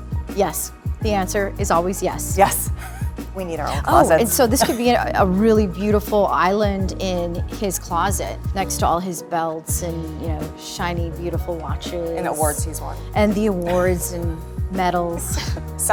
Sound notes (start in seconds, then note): 4.4 chuckles